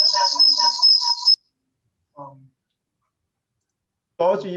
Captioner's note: strange whirring continues